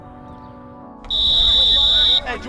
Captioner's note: whistle blows